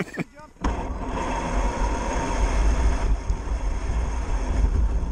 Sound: laughter; RC truck wheels spinning

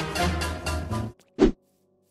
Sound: swoosh

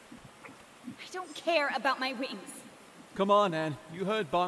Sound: despairing

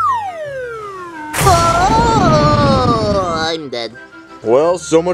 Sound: dead noises

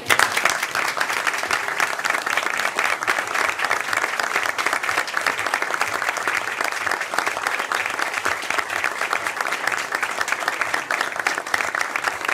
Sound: applause

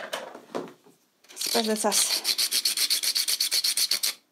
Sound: scraping noise

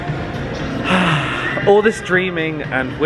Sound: sighs

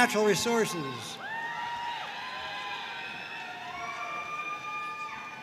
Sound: audience cheering and applauding

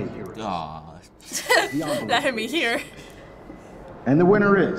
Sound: laughs

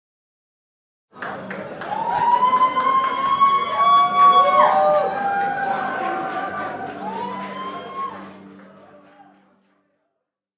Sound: cheering voices

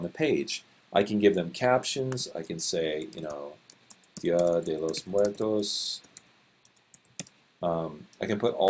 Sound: typing

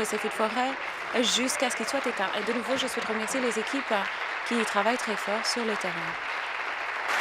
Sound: applause

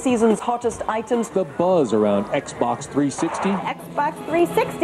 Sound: voiceover

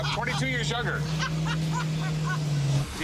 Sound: laughs

